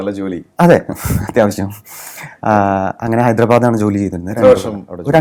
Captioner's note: laughs